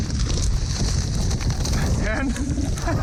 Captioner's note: wings flapping; laughs